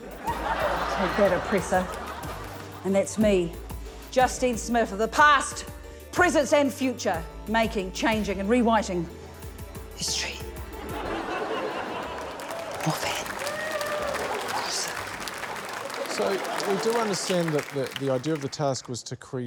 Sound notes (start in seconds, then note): 0.0 laughter; 10.7 laughter; 15.2 applause